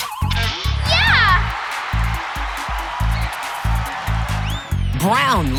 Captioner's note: cheering